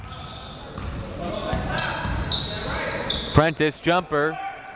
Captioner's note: crowd members shouting